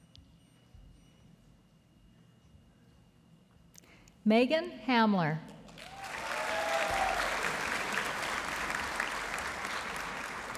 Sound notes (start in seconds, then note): 5.7 audience applauding